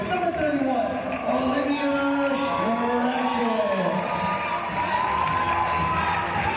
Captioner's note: team cheers